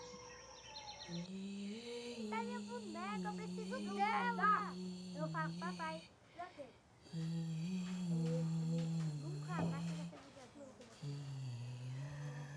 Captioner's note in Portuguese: crianças conversam ao fundo